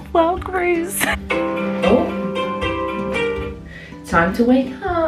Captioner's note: phone alarm